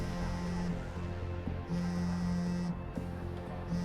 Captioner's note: phone vibrating